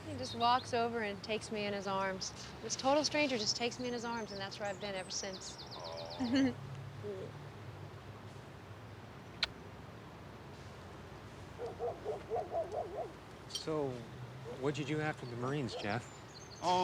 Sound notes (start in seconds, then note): 9.2 lips smacking; 11.6 dog barking